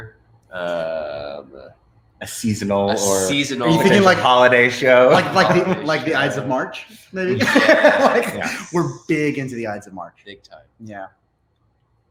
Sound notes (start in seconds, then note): 7.3 laughs